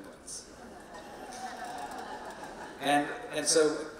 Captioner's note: audience laughing